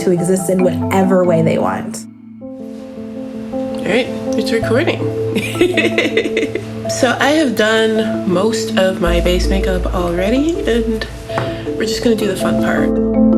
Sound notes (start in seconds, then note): 5.4 laughs